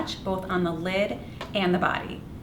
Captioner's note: none